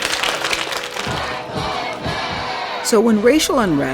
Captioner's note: clapping; crowd